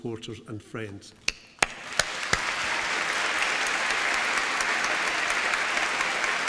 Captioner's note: applause